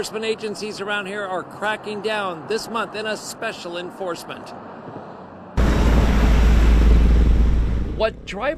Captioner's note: natural sound of traffic